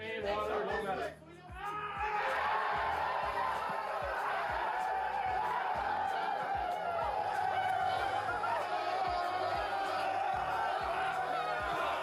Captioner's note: celebrating, cheering